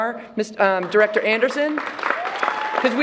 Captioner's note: applause